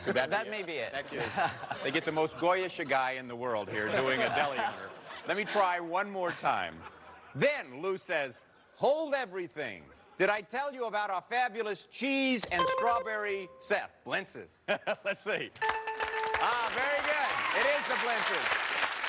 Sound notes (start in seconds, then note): 13.1 buzzer rings; 15.0 laughs; 15.6 bell rings